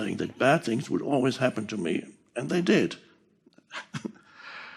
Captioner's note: Eckhart râzând